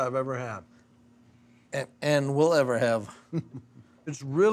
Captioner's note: chuckling